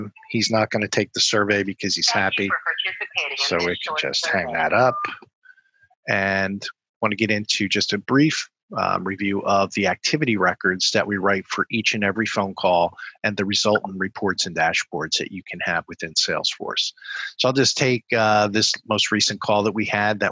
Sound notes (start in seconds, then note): 4.0 phone beeps